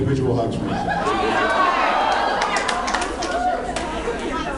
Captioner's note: applauds